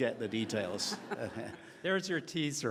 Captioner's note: laughing